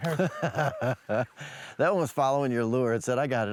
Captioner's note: laughing